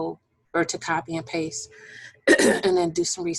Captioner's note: clearing voice